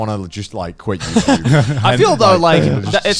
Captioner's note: Joey and Garnt laughing